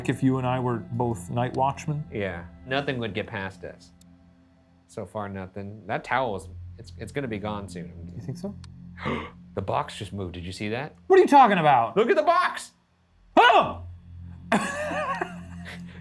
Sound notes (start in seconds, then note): 9.0 gasps; 13.3 gasps and laughs